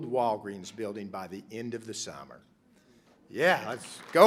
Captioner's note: applause